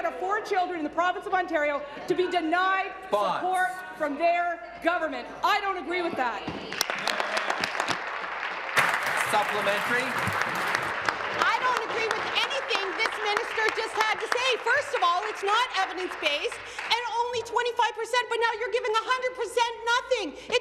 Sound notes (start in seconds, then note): 10.9 applause